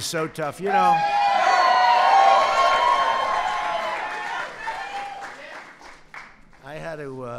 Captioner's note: applause